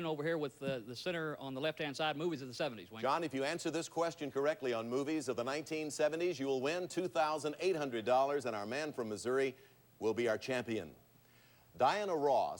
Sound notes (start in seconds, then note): none